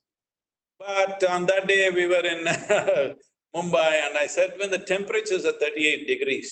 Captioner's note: laughs